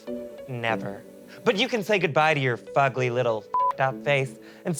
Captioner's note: beep